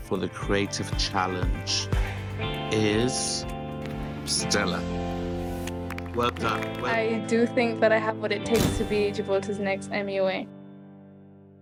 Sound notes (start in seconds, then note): 7.4 group applauds